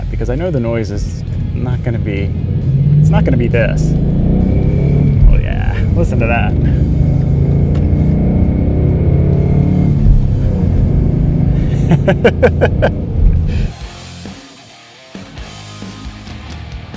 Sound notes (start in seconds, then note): 4.4 Mustang engine revs; 7.0 Mustang engine roars; 11.6 laughs; 13.9 rock music